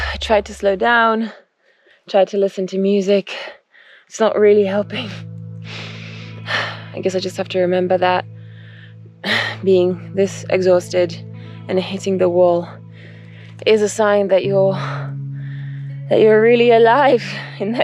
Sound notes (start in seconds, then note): 9.2 sighs